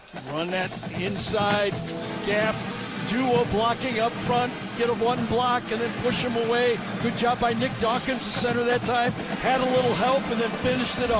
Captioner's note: whistle blowing